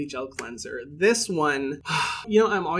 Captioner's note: sighing deeply